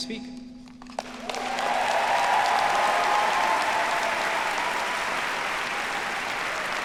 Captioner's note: audience applauding; audience cheering